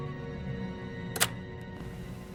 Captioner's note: click